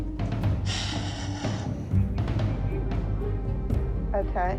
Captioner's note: knocking; sighing